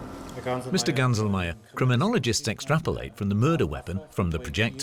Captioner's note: in German